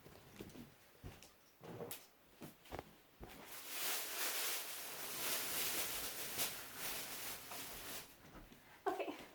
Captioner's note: plastic bag rustling